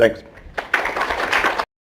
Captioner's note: audience applause